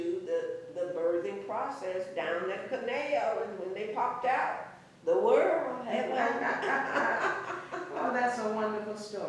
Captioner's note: laughter